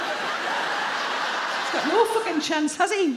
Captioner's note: audience laugh